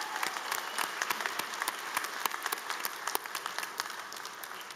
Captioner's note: applause